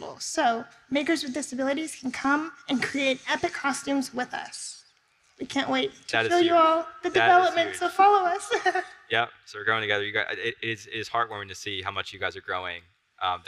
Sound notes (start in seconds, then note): 7.0 laughs